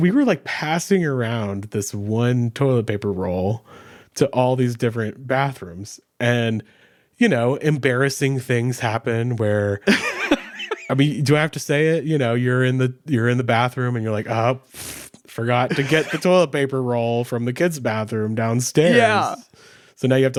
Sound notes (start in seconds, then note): 9.8 laughing; 15.7 blows raspberry